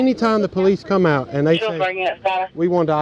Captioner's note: radio chatter